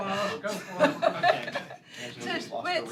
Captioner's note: laughter